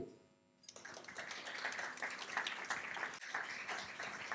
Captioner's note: applause